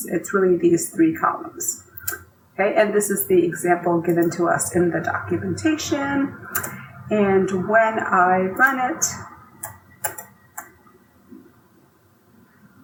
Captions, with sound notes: It's really these three columns. Okay. And this is the example given to us in the documentation. And when I run it, (mouse clicking)